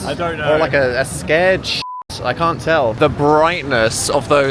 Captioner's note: beep